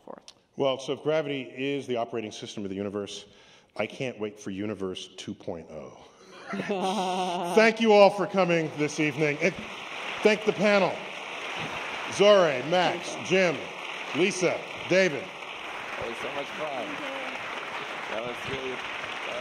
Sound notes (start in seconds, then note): 6.4 laughter; 11.5 applause